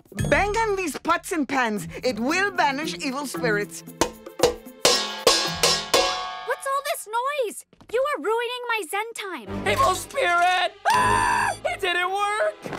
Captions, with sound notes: Bang on these pots and pans. It will banish evil spirits. [banging] What's all this noise? You are ruining my Zen time. Evil spirit! Ah! It didn't work!